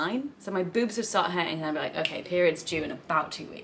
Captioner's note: snaps